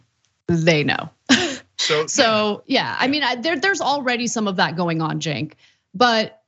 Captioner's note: laugh